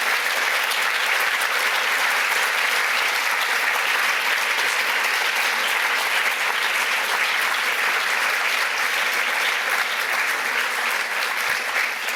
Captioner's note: applause